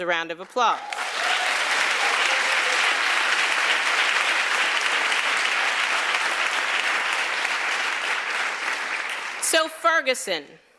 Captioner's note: applause